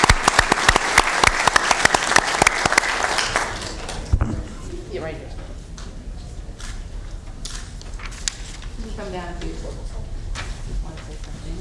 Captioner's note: applause